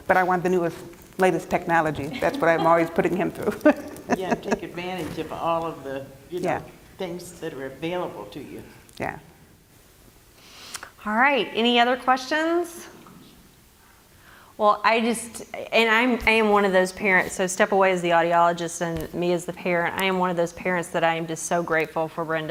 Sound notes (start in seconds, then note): 2.0 laugh